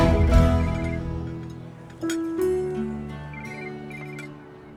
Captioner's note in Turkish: telefon çalar